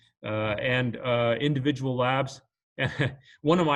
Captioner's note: chuckles